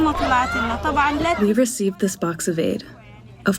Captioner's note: through translator